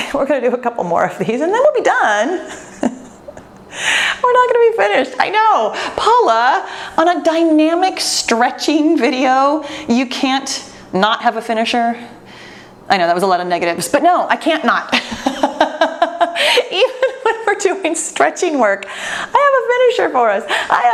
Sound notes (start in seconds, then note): 15.0 laughs